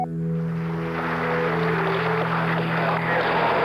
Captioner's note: static